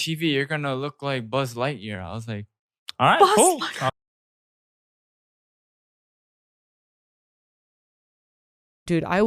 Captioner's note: laughs